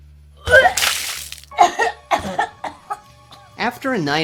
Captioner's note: liquid spattering; Steph coughing